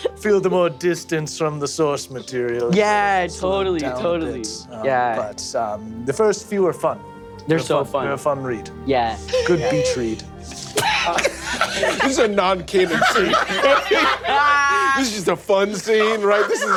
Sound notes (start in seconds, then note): 10.6 laughs